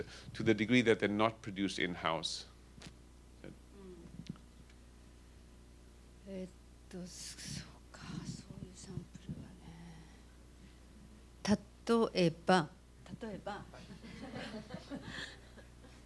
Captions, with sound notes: to the degree that they're not produced in-house. [NON-ENGLISH SPEECH] [LAUGHTER]